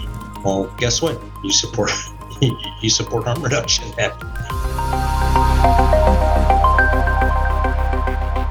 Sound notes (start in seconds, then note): 2.4 laughs; 4.7 upbeat piano music